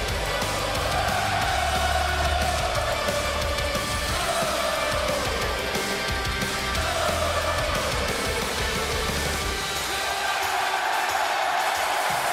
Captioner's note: cheers and applause